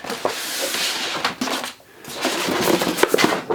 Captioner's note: paper ruffling